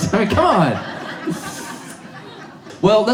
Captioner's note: audience laughs